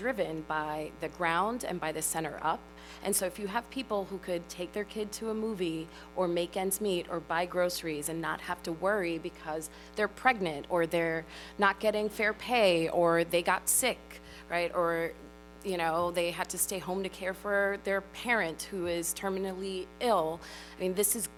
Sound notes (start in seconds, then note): none